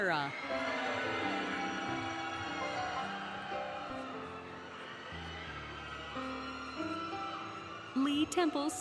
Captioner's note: applause, Cheering, Music